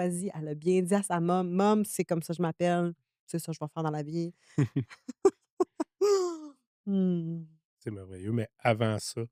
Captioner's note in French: rires